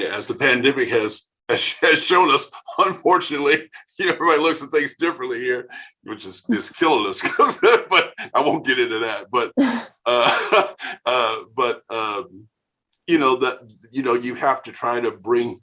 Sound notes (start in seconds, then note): 1.5 laughing